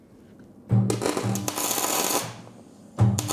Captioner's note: crackling sounds